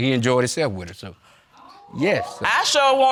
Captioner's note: audience exclaims